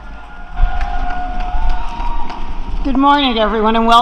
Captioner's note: applause